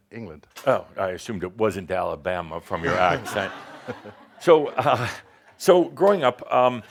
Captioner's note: some chuckles